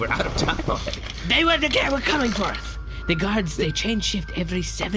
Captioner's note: stuttering